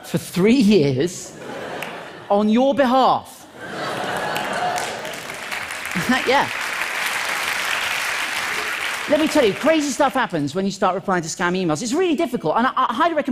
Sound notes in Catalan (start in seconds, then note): 5.9 Aplaudiments